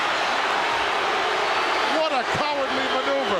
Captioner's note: audience booing